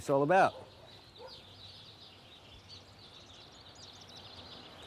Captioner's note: birds chirping